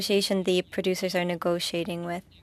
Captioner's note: speaking French